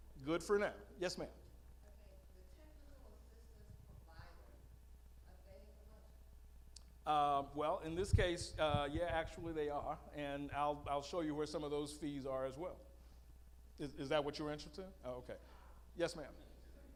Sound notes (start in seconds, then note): 1.9 female audience member speaking